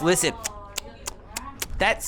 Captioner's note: lip smacking noises